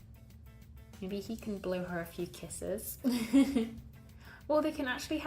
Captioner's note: laughs